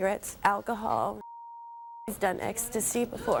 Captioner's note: beep